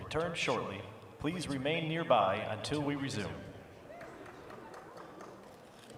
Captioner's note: applause